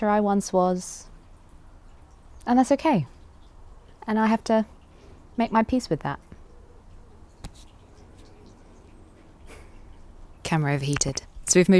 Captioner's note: exhales softly